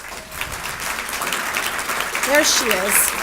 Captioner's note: audience applauds